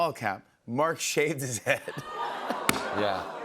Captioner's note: audience oohs